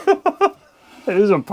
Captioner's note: laughing